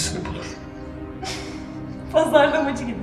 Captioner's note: laughs